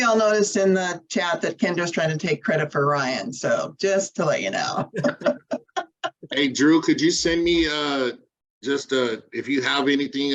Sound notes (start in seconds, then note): 4.7 chuckles